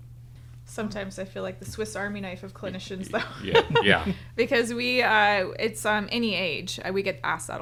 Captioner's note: laughs